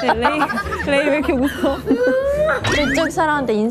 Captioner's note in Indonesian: Heh / Hee